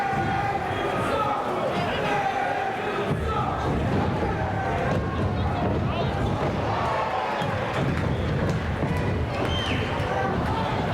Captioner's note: crowd cheering